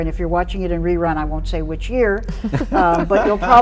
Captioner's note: guests chuckling